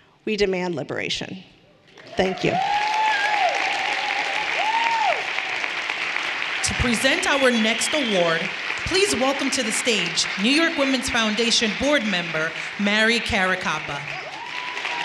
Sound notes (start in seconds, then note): 3.3 everyone cheering and applauding; 14.8 everyone applauding